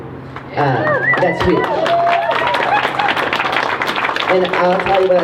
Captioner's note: crowd cheering